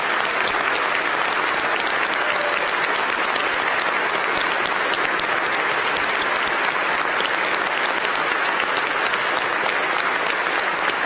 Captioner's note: applause